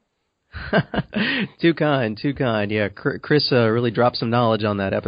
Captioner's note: chuckles